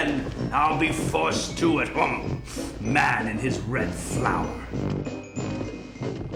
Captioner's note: huffs